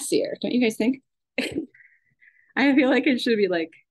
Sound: laughs

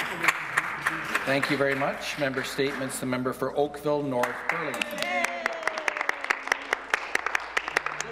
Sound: some Applause

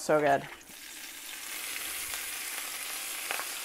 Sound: sizzling

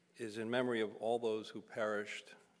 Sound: none

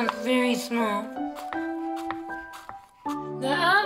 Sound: chopping

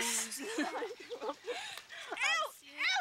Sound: bothau lghing

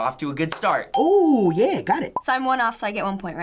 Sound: claps; ding

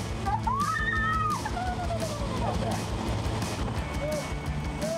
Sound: screams; upbeat music

